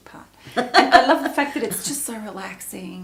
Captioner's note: laughs